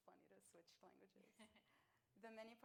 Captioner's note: laughs